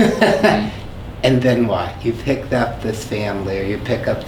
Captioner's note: laughs